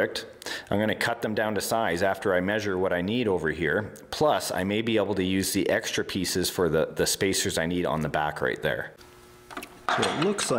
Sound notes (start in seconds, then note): none